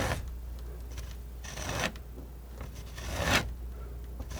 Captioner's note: scratching